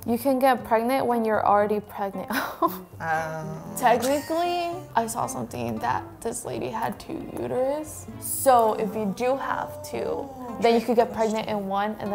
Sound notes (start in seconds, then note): 2.4 laughs